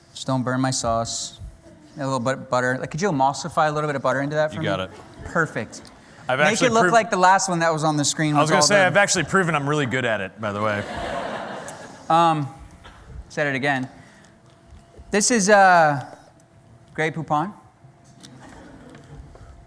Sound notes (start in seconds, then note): 10.5 laughter